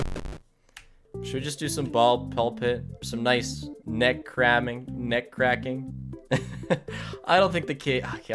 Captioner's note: laughs